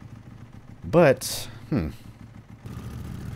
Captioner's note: motorcyle accelerates